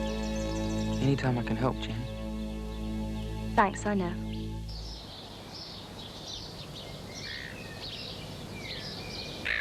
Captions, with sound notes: Any time I can help, Jen. - Thanks, I know. (birds singing)